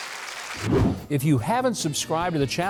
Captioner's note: quick whoosh